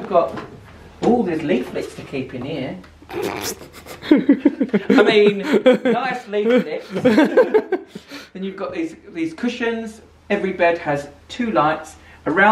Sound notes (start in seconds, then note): 3.1 laughs